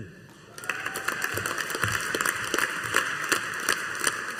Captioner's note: audience applauding